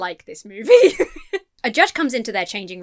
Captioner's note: laughs